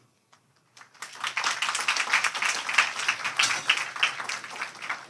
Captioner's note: audience applauding